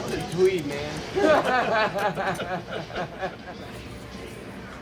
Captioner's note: men laughing